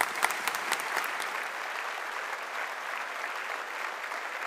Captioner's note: audience applauding